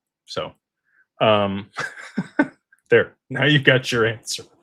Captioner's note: laughter